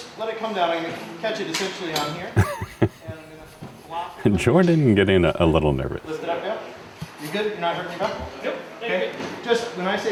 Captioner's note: laugh